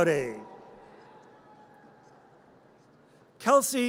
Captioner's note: audience cheers